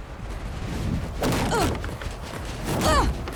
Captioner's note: grunting